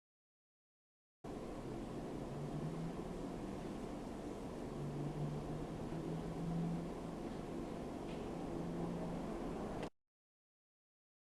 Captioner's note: faint white noise